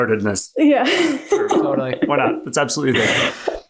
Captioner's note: laughs